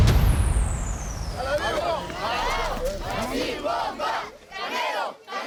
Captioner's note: speaking Spanish